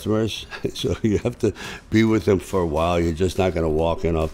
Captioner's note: chuckles